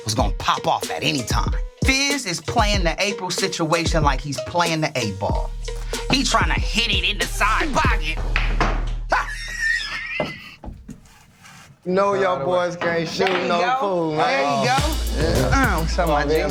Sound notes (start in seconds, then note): 9.1 laughs